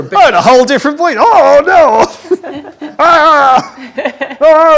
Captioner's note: laughs